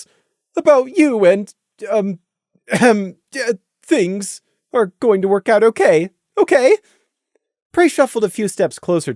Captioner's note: ehem